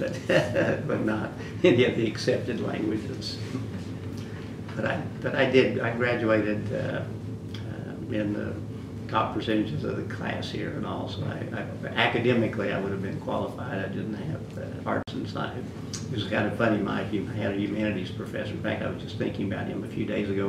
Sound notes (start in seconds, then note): 3.4 laughs